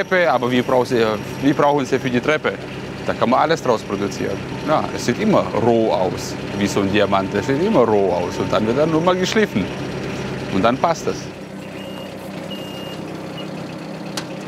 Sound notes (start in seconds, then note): 11.6 repeated beeps